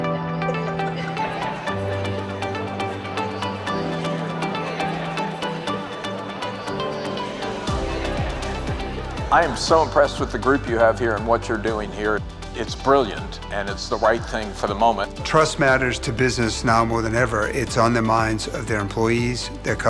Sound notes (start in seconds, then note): 0.7 guests laugh; 3.5 group chattering